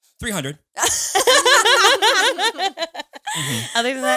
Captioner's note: all laughing